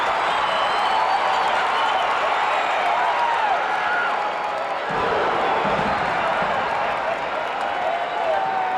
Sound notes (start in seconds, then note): 4.9 audience roaring